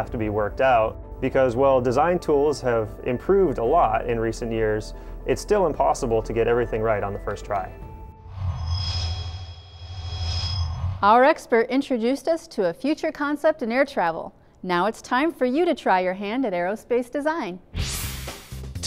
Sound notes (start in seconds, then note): 8.2 sound Effects